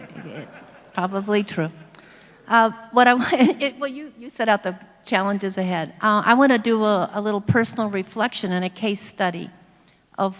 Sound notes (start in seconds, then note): 0.0 audience laughs; 3.9 laughs